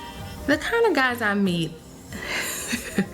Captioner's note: laughing